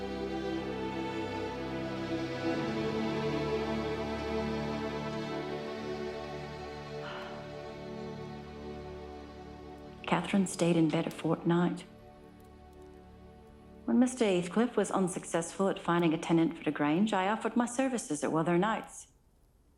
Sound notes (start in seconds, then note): 6.9 exhaling